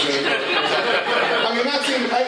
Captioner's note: laughter